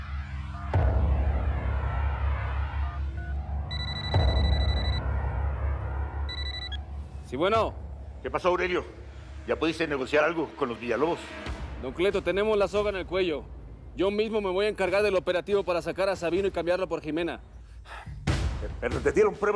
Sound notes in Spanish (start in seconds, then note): 3.9 Suena el celular